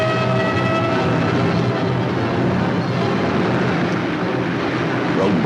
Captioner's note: dramatic music; sirens wailing; engine rumbling; dramatic music